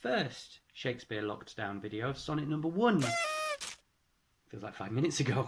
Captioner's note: party blower